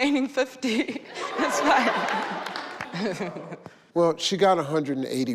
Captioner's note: audience laughing